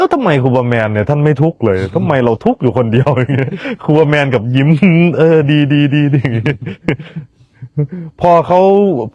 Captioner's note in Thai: เสียงหัวเราะ